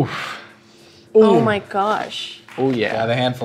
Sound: sniffs

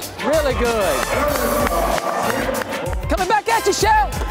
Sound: cheering

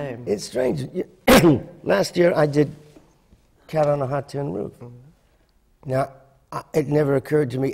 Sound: coughing

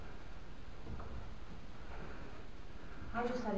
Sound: white noise

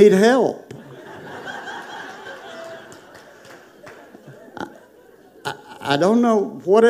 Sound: congregation laughing

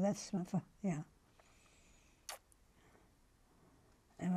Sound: pauses for 3 seconds

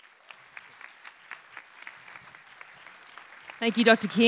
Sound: applause

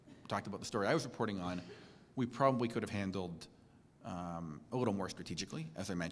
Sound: cough

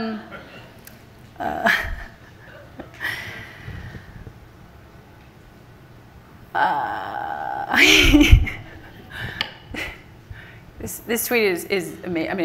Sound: laughter from the audience; laughs

